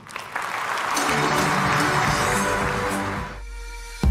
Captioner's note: applause